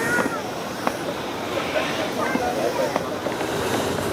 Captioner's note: children's voices